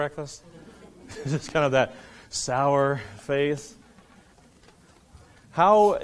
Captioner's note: laughing